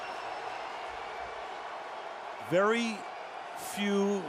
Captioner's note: crowd cheering